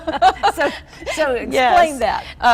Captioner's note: women laughing